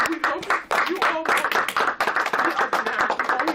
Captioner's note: clapping